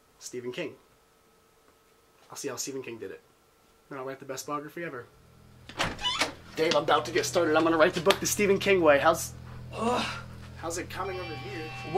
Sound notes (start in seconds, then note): 5.6 door opens